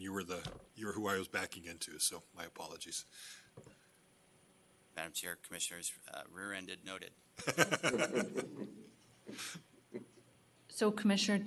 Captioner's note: laughter